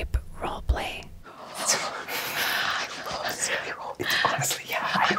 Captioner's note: everyone laughs